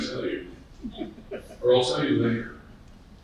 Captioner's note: people laughing